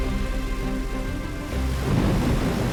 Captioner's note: propeller whirring